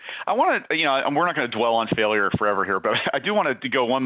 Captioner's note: giggles